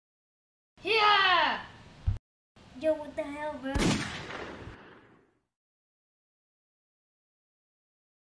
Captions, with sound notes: >> (Boomie yells) >> Yo, >> Yo, what the >> Yo what the hell, bro! >> (gunshots)